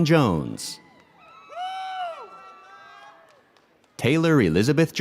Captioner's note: audience cheers